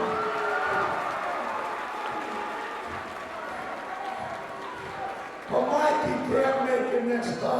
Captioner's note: crowd cheering